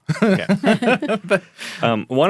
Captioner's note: all laughing